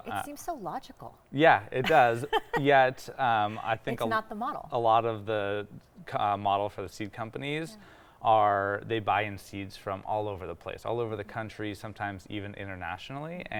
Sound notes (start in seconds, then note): 1.8 laughing